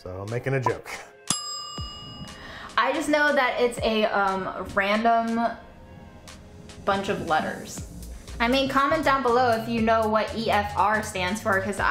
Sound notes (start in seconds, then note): 1.2 timer dings